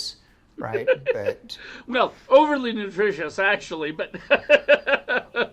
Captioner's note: laughs